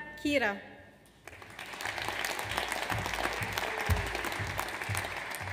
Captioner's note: audience applauds